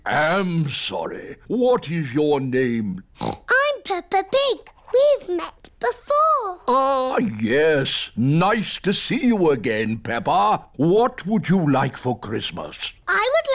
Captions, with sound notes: I am sorry. What is your name? (SNORTS) I'm Peppa Pig. We've met before. Ah, yes! Nice to see you again, Peppa. What would you like for Christmas?